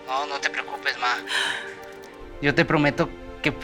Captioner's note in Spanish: Sollozos